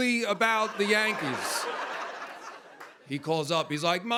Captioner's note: laughter